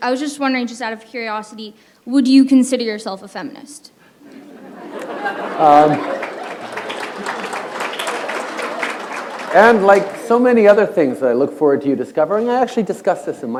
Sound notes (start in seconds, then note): 5.0 applause; 5.8 laughter